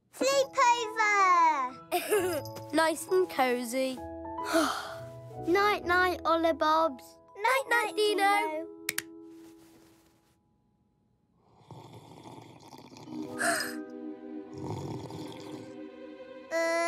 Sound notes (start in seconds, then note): 1.9 giggles; 4.4 sighs; 11.7 slurping; 13.5 gasps; 14.6 slurping; 14.7 tense music